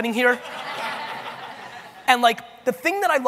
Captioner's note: audience laughing